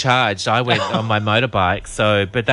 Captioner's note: laughs